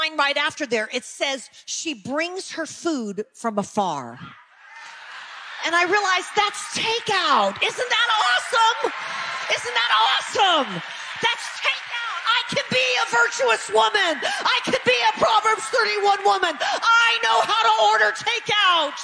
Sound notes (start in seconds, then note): 4.7 audience laughing; 8.7 audience applause; 11.4 audience laughing; 18.6 audience applause